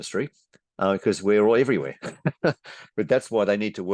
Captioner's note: chuckles